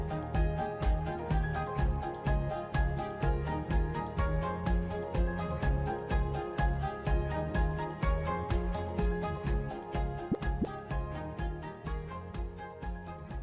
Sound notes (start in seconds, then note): 9.8 graphic pops